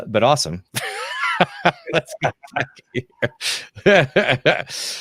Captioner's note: both laughing